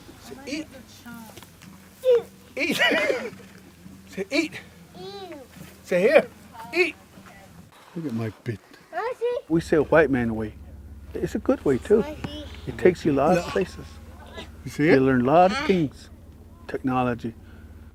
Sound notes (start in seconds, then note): 2.6 laughter